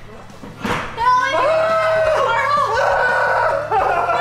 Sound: screaming

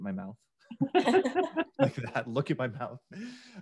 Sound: group laughs

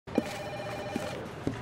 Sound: phone rings; footsteps

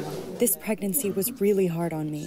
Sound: through translator

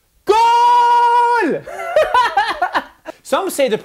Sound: laugh

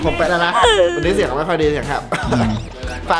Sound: coughing sound

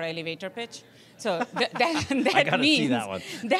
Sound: laughing

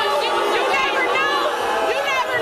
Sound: crowd jeers

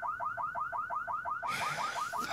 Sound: car alarm blaring; sighs

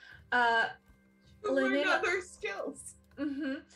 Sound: laugh

